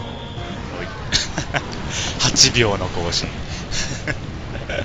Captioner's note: laughs